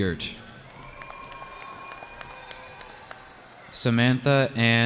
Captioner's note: cheering